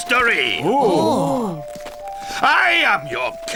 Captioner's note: gasping